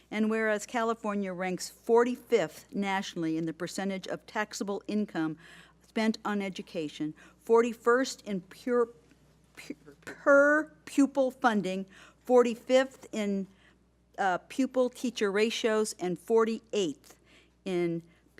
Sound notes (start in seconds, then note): none